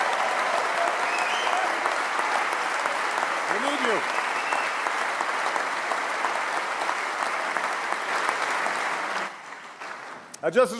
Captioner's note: cheers & applause